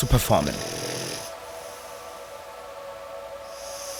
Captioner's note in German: Schnarchen